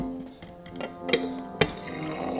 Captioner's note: dramatic music continues; mug clinks; dramatic music continues; tea spraying